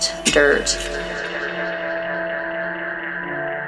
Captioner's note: space echo!